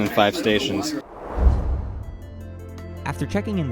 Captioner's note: whoosh